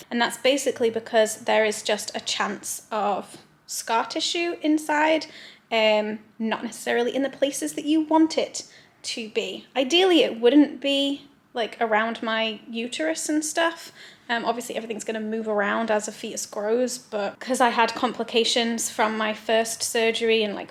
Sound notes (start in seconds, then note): none